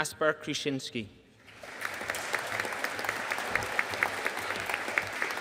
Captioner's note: audience applauding